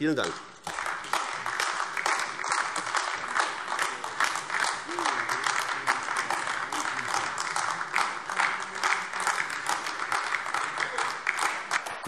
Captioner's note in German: Beifall AfD